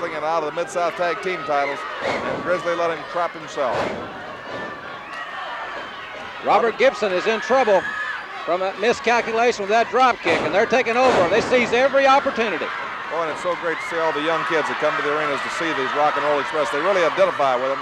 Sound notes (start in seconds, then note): 3.6 floor banging; 4.2 audience cheering